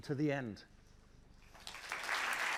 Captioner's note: applause